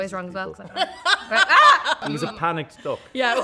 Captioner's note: laughs; imitates noise of duck